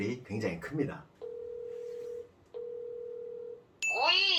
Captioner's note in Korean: 통화연결음